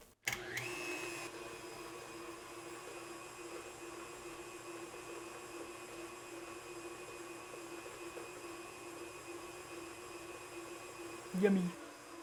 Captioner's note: squishy sounds, then clicks and whirring; soft whirring in the background